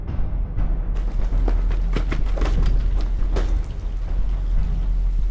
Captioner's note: approaching footfall